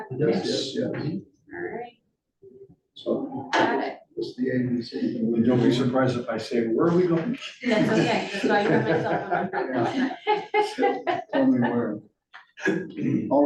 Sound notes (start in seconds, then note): 9.8 laughs